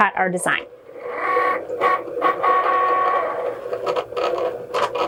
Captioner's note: machine whirring